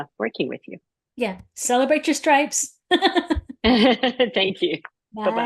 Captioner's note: laughs